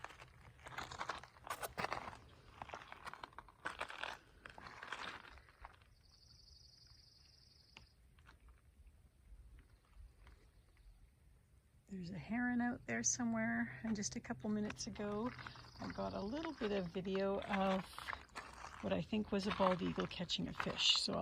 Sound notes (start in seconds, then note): 6.0 sounds of birds singing